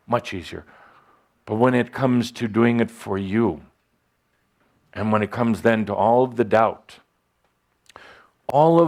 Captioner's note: none